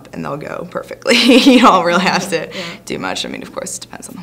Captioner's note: laughingly